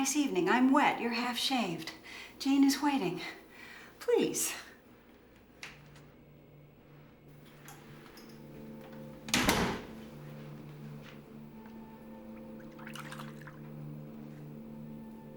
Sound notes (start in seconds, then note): 12.3 water splashes